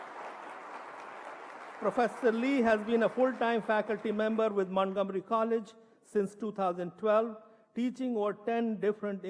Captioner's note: applause